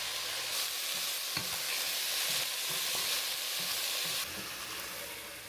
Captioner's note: sizzle sizzle